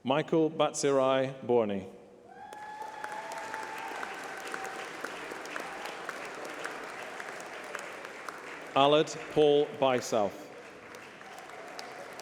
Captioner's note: applause